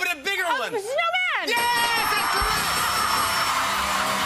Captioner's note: dinging; cheers and applause